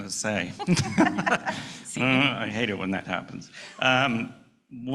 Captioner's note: laughing